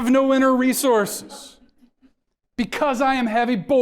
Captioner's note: audience members laugh